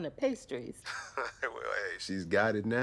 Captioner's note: laughs